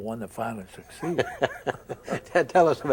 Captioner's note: both chuckle